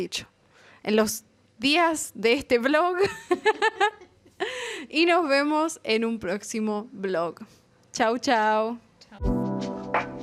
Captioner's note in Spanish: risas